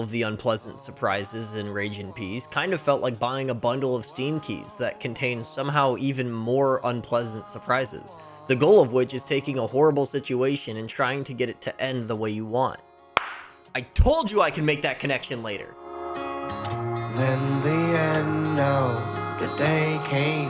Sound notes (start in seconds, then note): 13.2 clap